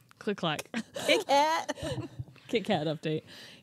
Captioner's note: shouts